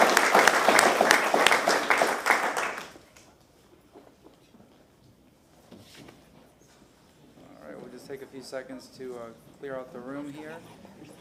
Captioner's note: applause